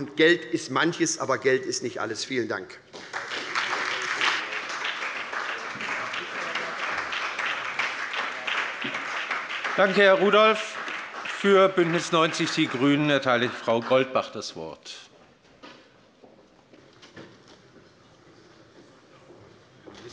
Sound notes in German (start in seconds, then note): 6.0 Beifall bei der SPD